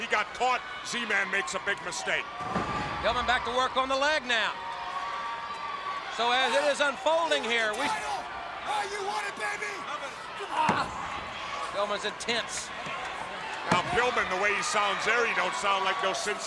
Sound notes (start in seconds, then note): 2.2 crowd cheering; 10.7 crowd chatter